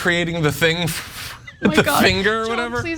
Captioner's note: laugh